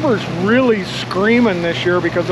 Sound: boat engine running

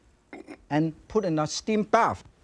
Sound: lid clinks

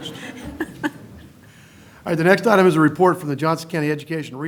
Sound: laughter

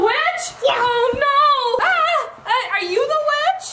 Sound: shouts

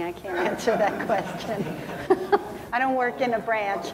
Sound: laughing

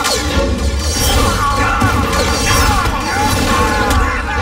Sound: blasting

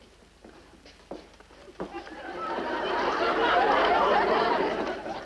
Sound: audience laughs

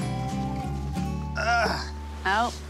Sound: grunt

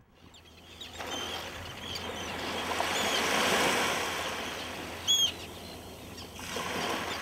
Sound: birds chirping

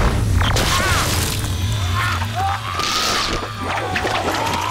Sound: groaning

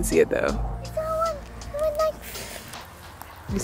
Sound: mimics wings flapping

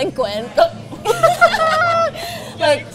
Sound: both giggle

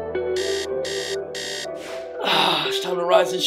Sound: alarm sounds

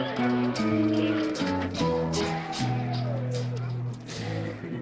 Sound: drunken bar applause

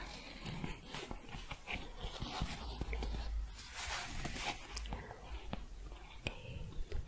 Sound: scratching and shuffling

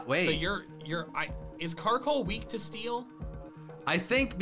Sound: none

